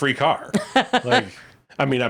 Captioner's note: laughing